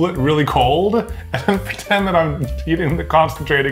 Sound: chuckling

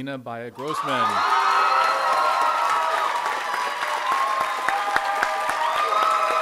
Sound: audience applauding and cheering

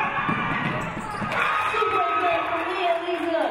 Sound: audience cheering

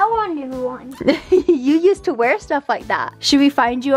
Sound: chuckling

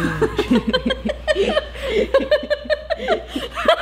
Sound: laughing

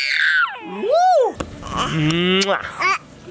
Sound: baby screaming; baby talking; lip smacking

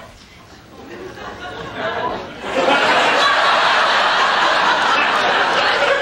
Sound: audience laughter

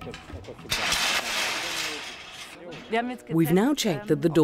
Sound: metal clanking

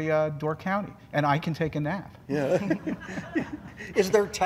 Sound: laughing

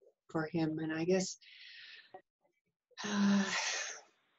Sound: sighs

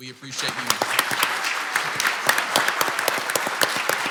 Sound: clapping

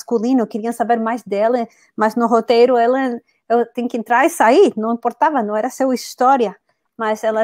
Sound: speaks portuguese

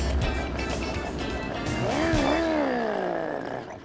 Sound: engine revving

